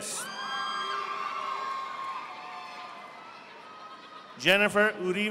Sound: audience applauding

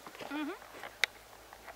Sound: non-committal agreement noise

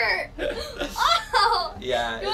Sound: laughs

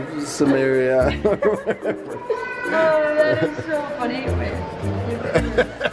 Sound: laughs; laughs

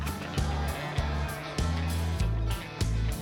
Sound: audience groans

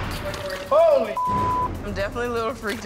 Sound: beep

